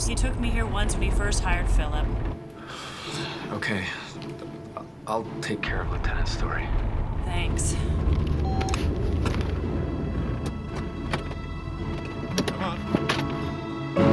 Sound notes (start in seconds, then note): 8.3 phone beeping; 13.9 ominous orchestral music